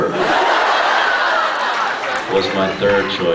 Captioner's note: laughs